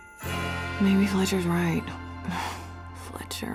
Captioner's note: sighs